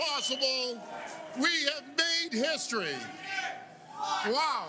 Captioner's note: cheers and Applause